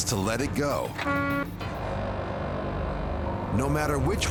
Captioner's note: horn honking